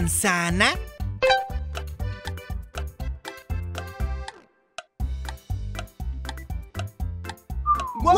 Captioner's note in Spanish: Sonido de reloj